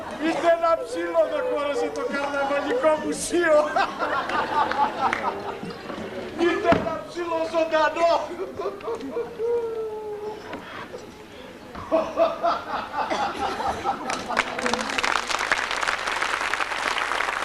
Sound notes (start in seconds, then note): 3.5 γέλιο; 8.3 γέλιο; 11.8 κι άλλο γέλιο